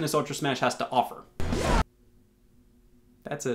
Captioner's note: whooshing